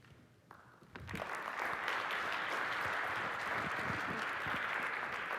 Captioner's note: applause